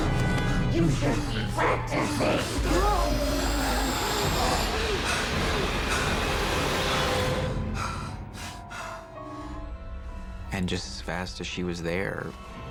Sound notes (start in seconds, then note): 0.2 gasps; 2.9 yelps; 4.7 demonic growling